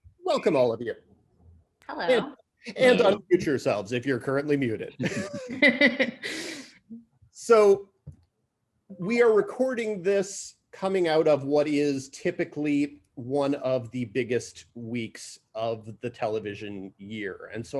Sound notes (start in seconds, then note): 4.9 laughs